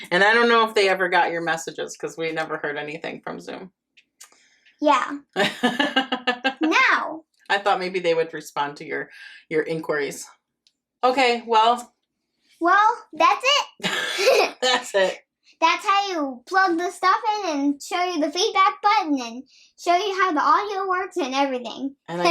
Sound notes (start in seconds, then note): 5.4 nana laughing; 13.8 both laughing